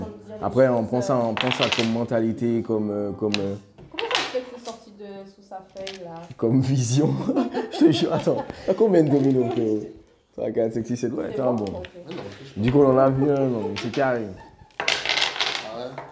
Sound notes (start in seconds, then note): 11.2 laughs